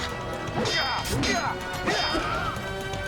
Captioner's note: metal clanging